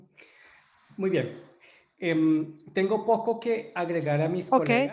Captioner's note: in foreign language